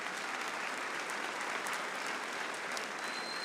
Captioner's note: applause